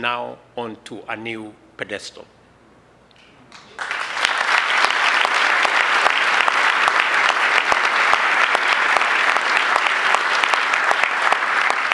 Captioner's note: applause